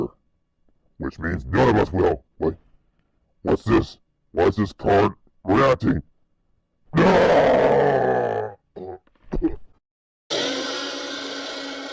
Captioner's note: groaning